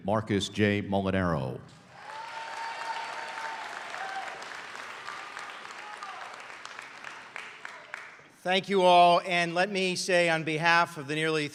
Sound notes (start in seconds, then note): 0.0 applause; 1.9 cheers